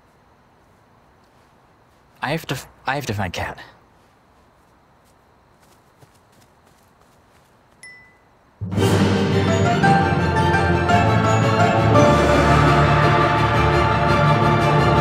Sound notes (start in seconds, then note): 7.8 ding